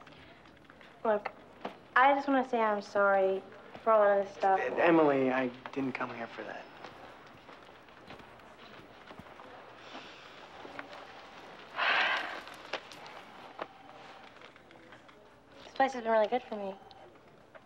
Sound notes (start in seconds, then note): 11.8 sighs